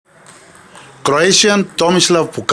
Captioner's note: ball tapping